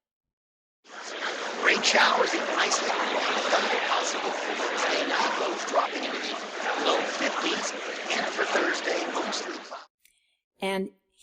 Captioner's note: noisy weather forecast